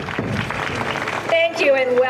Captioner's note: applause